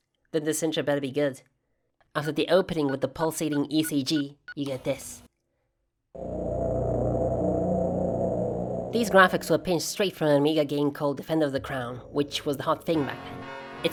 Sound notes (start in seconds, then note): 6.1 droning sound